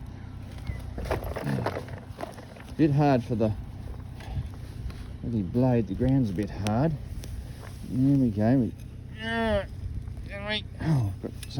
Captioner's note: beep beep